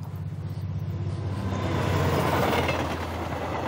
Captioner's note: trains passing